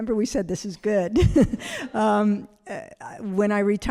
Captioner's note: laughing